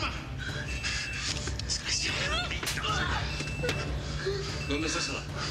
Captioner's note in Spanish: bofetada